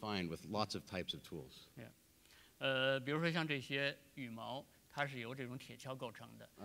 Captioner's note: speaking in Chinese; speaking in Chinese